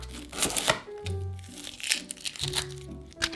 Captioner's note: onion paper rustling